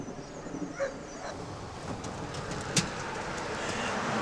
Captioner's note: dogs barking